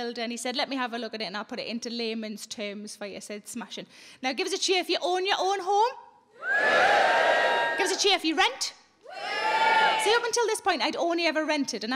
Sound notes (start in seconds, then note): 6.4 scattered cheering; 9.1 scattered cheering